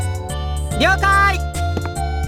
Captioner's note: shout